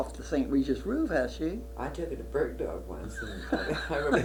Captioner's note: laughter